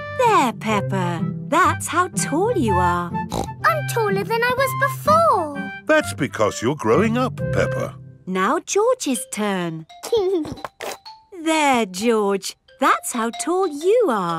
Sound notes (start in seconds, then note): 3.2 snorts; 10.1 giggling